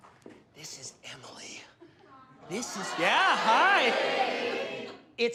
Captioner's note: crowd